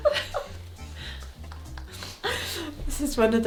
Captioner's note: laughs